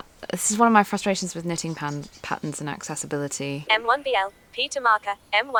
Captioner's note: mechanical voice of the screen reader